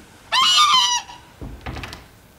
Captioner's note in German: Kreischen